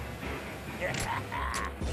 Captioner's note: snickering